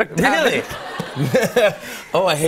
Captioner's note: laughter